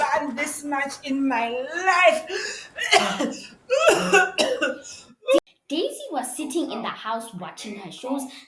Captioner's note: panting and coughing